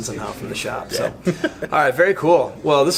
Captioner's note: chuckles